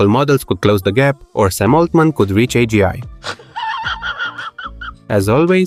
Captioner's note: laughing